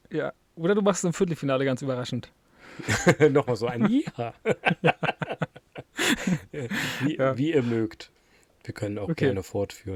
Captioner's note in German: gelächter